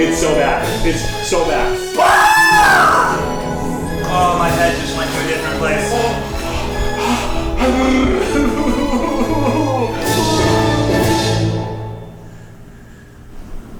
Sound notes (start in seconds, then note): 1.9 screams; 7.5 cries